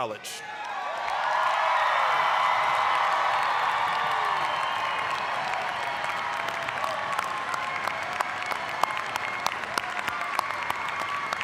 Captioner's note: applause, cheering